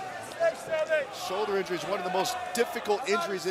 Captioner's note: crowd cheering